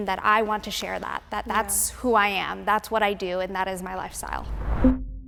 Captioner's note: none